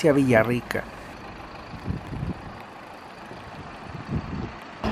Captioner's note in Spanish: sonido ambiente del bus